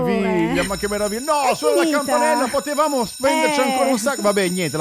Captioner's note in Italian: suona la campanella